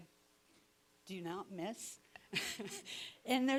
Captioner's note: laughing